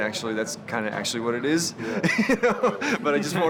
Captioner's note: laugh